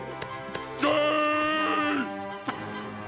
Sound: groaning

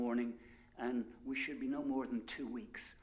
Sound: none

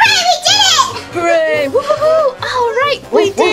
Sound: everyone cheering

